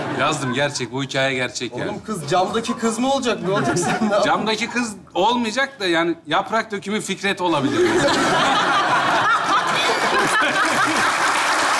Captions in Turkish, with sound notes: -Yazdım gerçek. Bu hikaye gerçek yani. -Oğlum kız Camdaki Kız mı olacak? Ne olacak? -Camdaki Kız olmayacak da yani Yaprak Dökümü Fikret olabilir. (Kahkaha ve alkış sesleri)